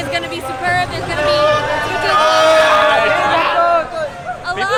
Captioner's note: crowd shouting